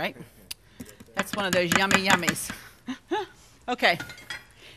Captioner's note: chuckles